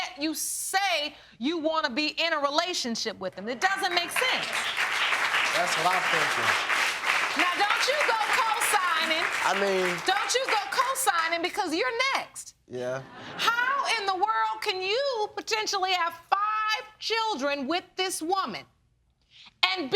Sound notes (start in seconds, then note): 3.7 audience applauding